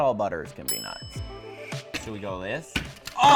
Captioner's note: bell dings